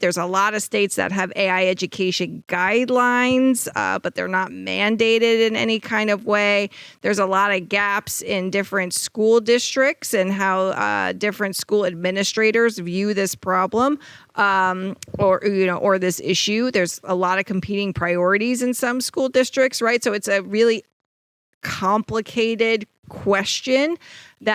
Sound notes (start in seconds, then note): none